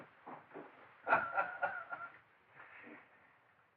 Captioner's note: laughing